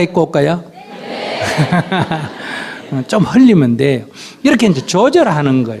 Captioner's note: Sunim Laughter